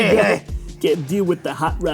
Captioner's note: laughter